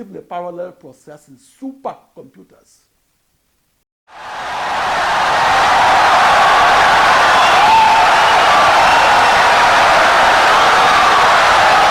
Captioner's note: wild applause and cheering for 17 seconds